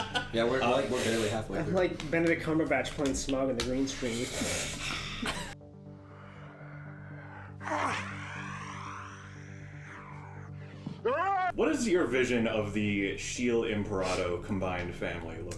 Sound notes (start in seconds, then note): 4.6 whispered scream